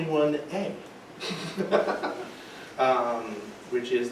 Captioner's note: laughing